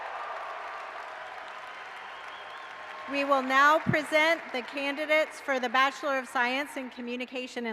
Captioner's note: cheering